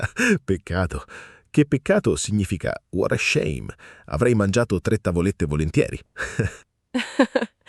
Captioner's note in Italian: risate